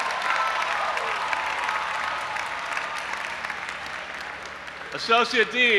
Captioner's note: audience applauding and cheering